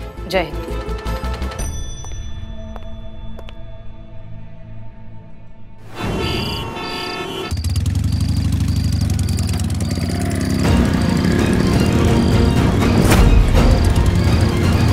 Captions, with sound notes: Long Live India. [traffic noises]